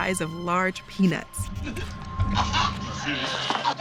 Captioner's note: choking